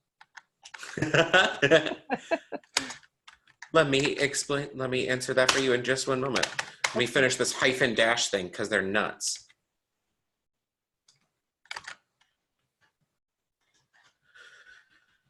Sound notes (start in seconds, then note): 0.8 laughs; 0.8 student laughs